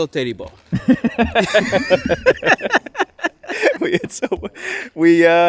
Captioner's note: laughing